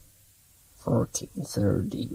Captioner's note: murmuring